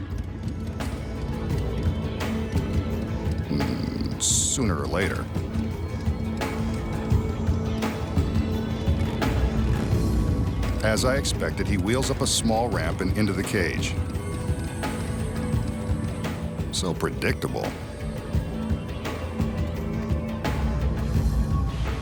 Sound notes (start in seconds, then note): 0.3 upbeat instrumental music continues; 3.4 humming; 8.6 motorbike engine rumbling; 17.9 upbeat instrumental music continues